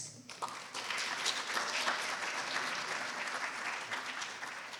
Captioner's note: applause